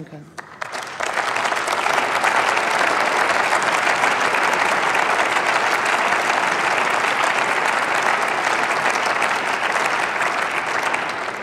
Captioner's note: Applause from CDU/CSU, SPD and the Greens